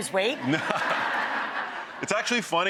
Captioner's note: audience laughs